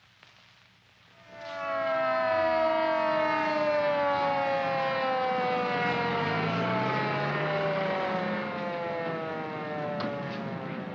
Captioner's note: siren wails